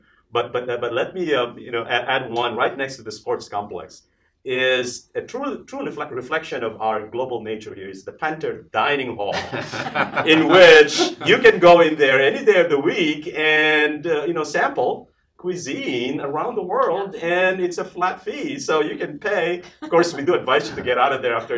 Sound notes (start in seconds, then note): 9.2 laughs